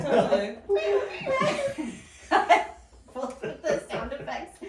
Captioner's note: laughing